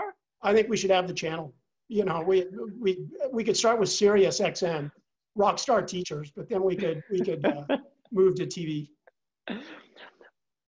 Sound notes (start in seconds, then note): 6.7 laugh